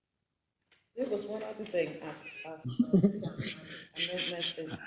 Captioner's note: laugh